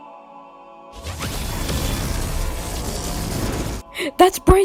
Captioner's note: portal opens as a huge ship comes in through portal